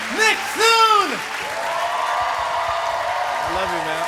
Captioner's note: cheers and applause